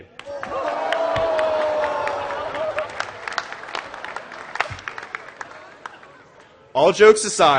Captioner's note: gasping and Applause